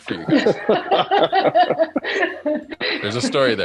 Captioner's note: laugh